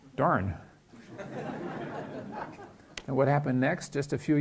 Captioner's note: laughing